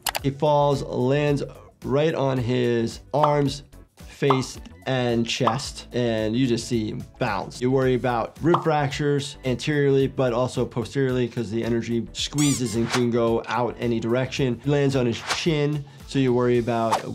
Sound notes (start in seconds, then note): 4.2 graphics popping; 12.4 object squeaks; 15.2 graphic whooshes; 15.2 whip whipping